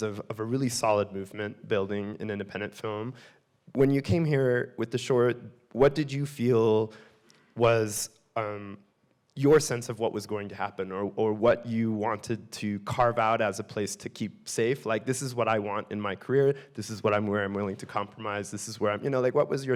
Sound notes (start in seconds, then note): none